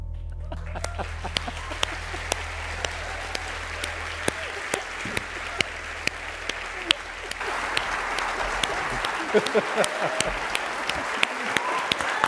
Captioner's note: applause